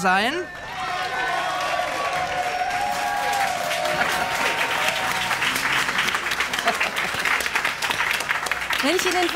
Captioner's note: applause